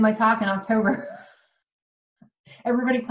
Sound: laughs

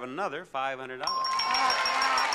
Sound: bell rings; audience cheers

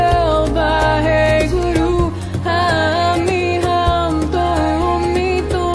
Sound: chanting in foreign language

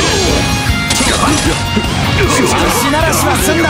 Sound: glass shatter

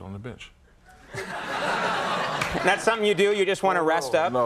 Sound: audience laughing

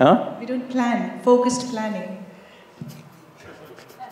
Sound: Sadhguru laughs

